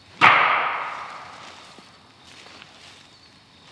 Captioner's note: knocking